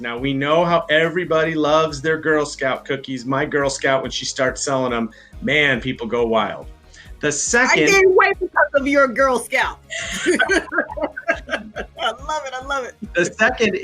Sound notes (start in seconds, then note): 9.9 laughs